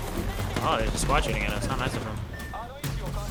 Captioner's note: echo